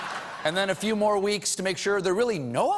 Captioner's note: laughter